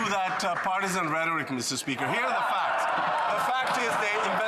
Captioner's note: applause